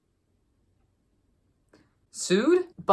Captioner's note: awkward Pause